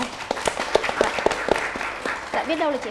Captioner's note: clapping